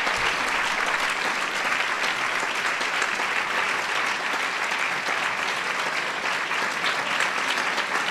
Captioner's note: applause